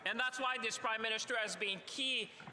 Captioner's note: speaking French